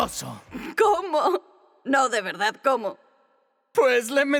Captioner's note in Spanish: Riéndose